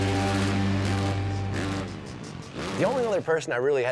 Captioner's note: rock music; motorcycle engines revving